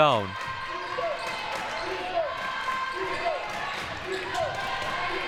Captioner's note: audience chanting